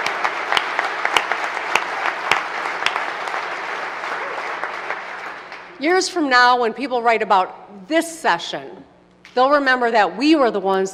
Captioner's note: applause